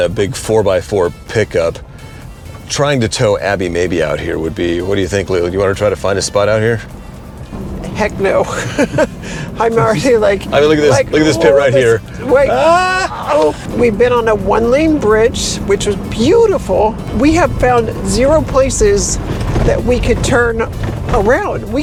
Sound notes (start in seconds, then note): 8.5 chuckles; 12.4 imitates nervous yell